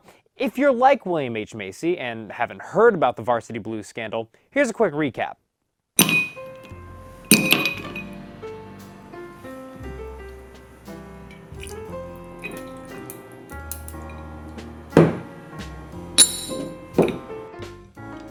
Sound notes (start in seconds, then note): 6.1 ice clinks into a glass and smooth jazz plays in the background